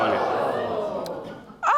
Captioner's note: audience gasps